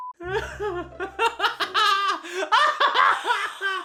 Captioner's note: laughs